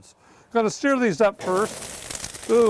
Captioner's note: sizzling